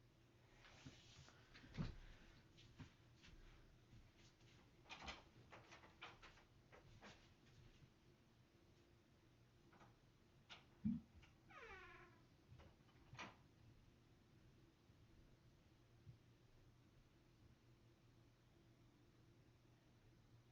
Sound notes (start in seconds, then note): 0.0 silence; 0.4 soft Rustling Noises; 5.1 door Opens and Closes Quietly; 13.4 silence